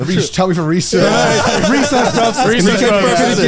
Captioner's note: all laughing